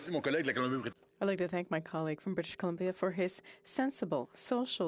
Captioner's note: speaking French